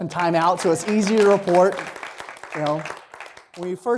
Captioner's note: applause